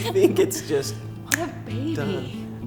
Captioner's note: snaps